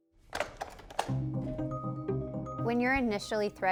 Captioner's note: chair clatters